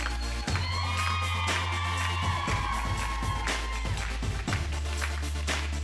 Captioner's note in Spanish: Palmadas al compás; Gritos y exclamaciones; Palmadas al compás